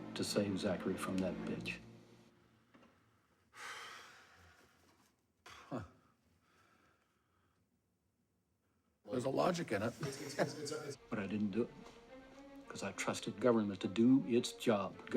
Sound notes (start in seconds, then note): 3.5 sighs; 5.4 laughs; 9.7 laughs